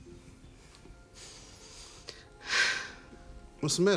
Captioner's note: inhales deeply, sighs